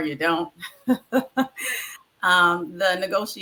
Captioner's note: laughs